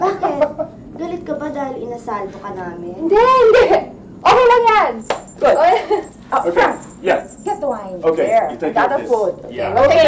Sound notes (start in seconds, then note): 5.1 chuckles